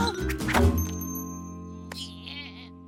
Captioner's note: grunts of effort; annoyed groan